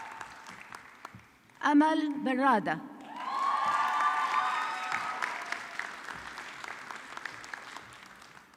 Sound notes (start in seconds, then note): 3.0 audience clapping